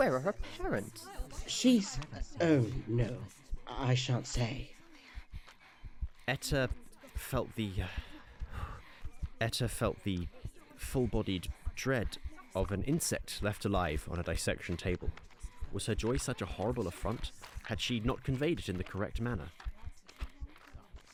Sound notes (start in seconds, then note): 4.7 etta breathes heavily; 8.4 exhales